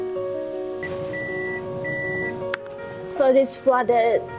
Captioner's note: beeping